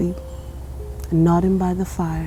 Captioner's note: birds chirping